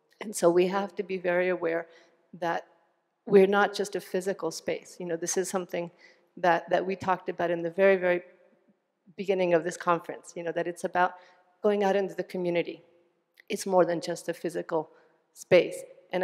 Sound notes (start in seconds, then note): none